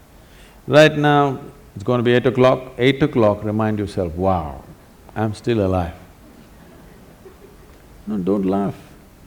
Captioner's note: laughter